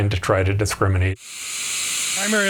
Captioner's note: TV static